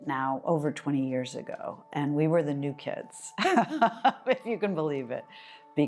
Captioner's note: laughs